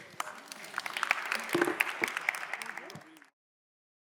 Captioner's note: people chattering; audience applauding